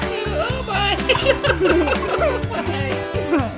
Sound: laughing

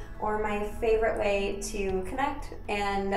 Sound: none

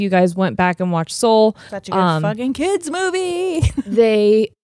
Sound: chuckles

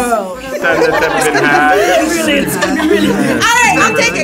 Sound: everyone imitating Trump

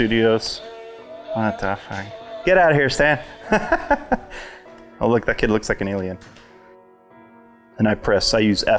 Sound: laughter

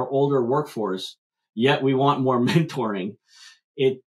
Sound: laughs

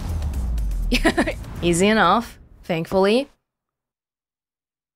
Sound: chuckles

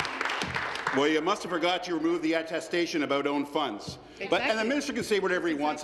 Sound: applause

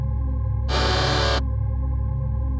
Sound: robot sound effect

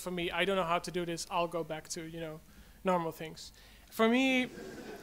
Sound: audience laughs

